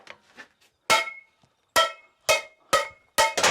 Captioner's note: metal dings; pots clang